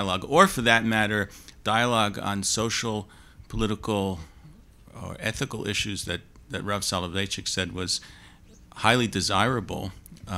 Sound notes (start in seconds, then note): none